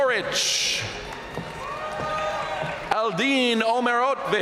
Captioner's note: audience cheering and applauding